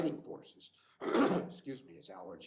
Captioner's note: clears throat